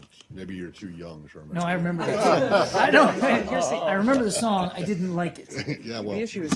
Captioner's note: laughter